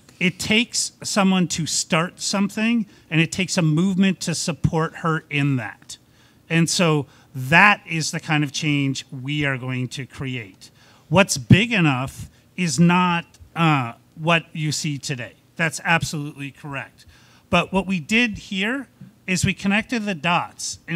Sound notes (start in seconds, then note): none